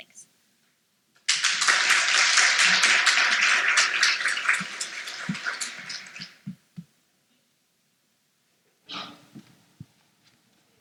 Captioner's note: applause